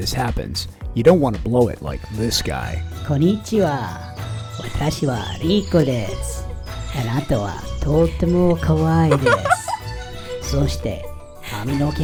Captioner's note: speaking bad Japanese